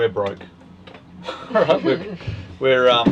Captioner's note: laughter